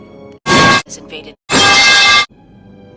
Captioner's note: metal clang